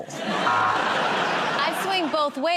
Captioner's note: laughter